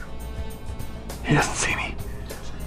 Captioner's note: whispering